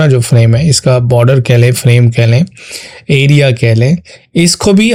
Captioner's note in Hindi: नाक से की जाने वाली आवाज़